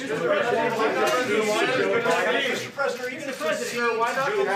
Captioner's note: reporters shouting questions